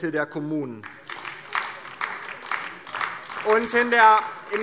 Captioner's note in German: Beifall DIE LINKE